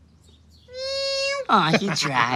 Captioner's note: cat meows